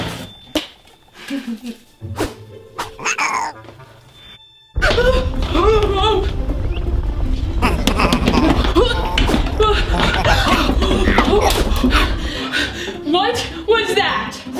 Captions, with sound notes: (swiping) (glove snapping) (giggling) - Uh, oh! (startled shouts) (house rumbling) (action gasping) - What was that?